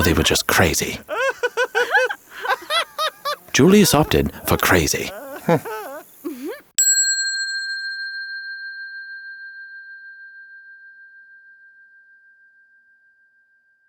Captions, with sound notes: or they were just crazy. (both laughing nervously) Julius opted for crazy. (bell ringing)